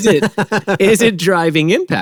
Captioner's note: laughing